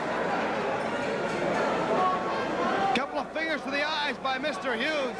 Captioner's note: crowd chatter